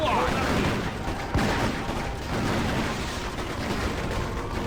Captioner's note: guns blasting